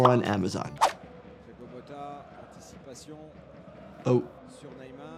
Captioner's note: commentator talks in foreign language